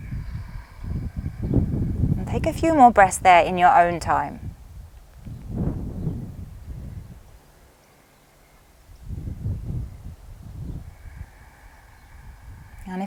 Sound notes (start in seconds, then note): 0.0 exhales deeply; 5.7 inhales softly; 10.8 exhales deeply